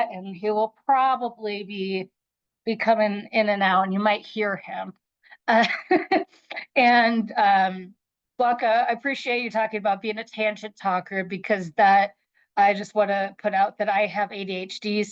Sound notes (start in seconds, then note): 5.6 chuckles